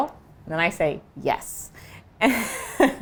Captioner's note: laughs